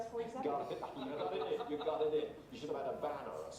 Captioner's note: laughing